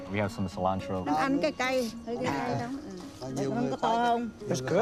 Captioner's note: conversing in Vietnamese